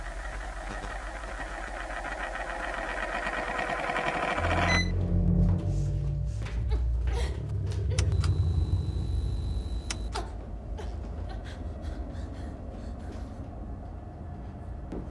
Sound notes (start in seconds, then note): 4.6 camera beeps; 5.6 Kira breathing heavily; 11.8 tense gloomy music